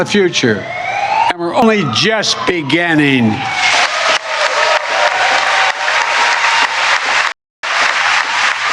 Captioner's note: cheering and applause